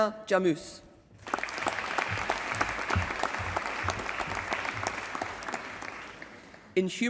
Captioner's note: applause